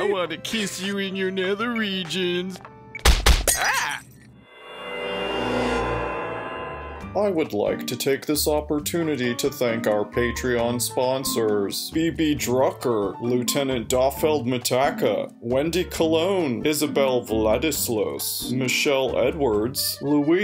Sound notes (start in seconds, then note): 3.0 punching, Finn yelps, glass breaking